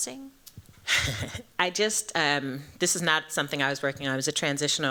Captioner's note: chuckles